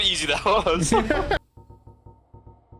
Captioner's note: both laughing